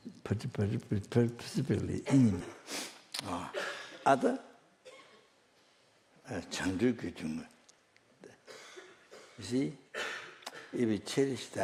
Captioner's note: snaps his fingers